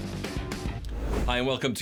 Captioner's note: upbeat music; screen swooshes